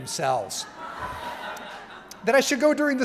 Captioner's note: crowd laughing